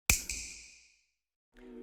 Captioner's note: snap